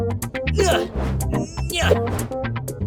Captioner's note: tossy grunts